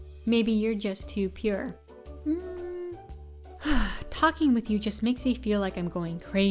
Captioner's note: sigh